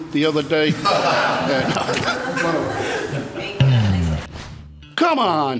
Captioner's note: people in room laugh